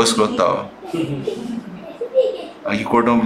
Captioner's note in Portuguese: risos